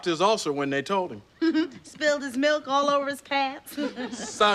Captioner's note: laughs